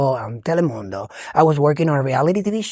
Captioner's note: speaking foreign language